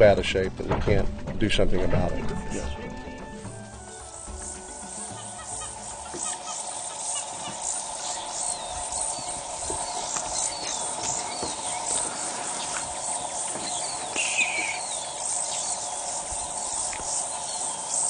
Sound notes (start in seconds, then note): 3.8 crickets chirping